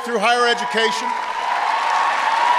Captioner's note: applause